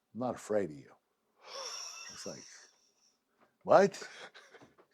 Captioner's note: laugh